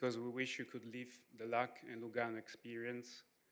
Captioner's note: none